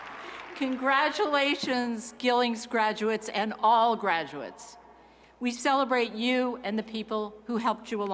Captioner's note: cheers and applause